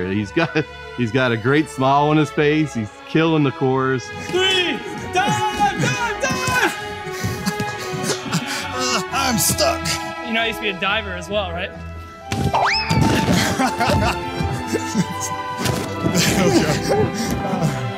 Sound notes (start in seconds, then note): 6.1 screams; 13.0 all laughing